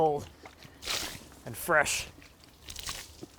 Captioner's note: water splashing; water splashing